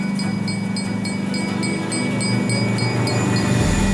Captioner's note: train bell dings; train roars